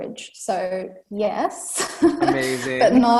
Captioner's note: laughs